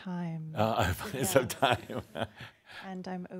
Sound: chuckling

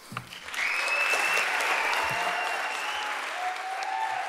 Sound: audience applauding

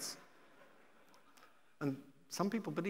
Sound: audience laughing

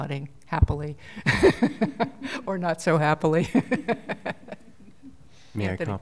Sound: laughter

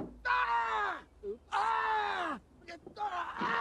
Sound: yelling

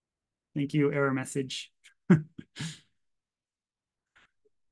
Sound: chuckles

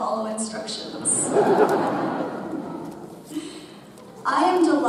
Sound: audience laughs

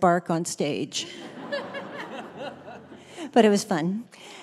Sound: laughter

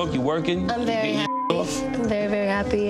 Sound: beeps

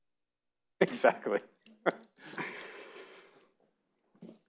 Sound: chuckles

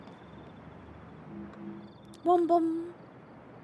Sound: orb Pulsing Noise

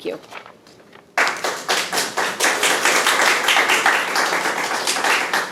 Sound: people clapping

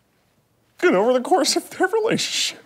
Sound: voice breaking

